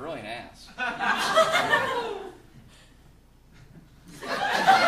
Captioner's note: audience laughing